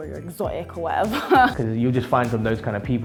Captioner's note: laughs